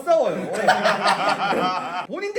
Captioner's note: eyewitness hahahahahaha